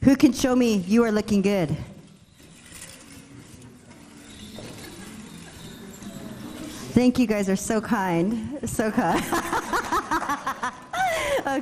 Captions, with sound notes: Who can show me, you are looking good? (participants chatting) Thank, you guys are so kind. So, kind. (laughs)